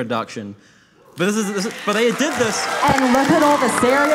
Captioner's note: audience cheering